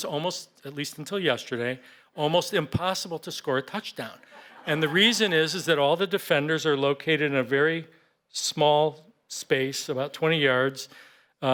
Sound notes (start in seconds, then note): 4.2 laughter